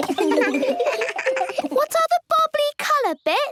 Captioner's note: giggles